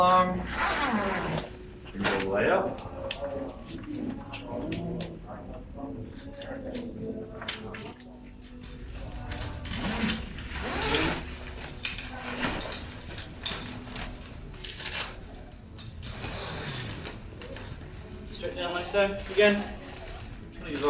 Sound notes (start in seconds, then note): 9.6 zipper